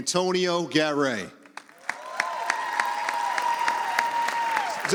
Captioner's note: audience applauds